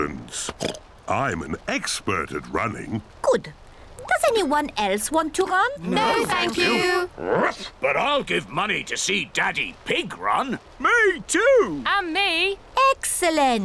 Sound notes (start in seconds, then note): 0.2 oinks; 7.0 barks